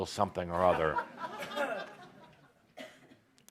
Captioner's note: laughter